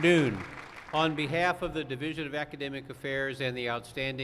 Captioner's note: applause